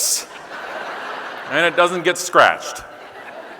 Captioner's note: audience laughing